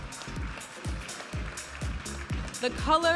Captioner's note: audience applauding and cheering; vibrant music